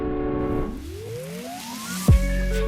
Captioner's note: audio windup